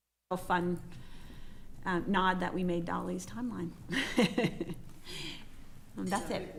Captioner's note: laughing